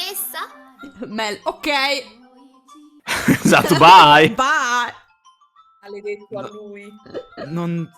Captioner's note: laughs